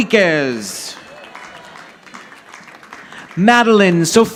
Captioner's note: audience applauding